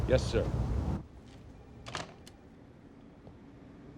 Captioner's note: footstep